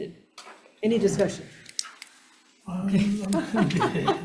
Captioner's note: laughing